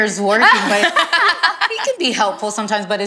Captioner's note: ladies laughing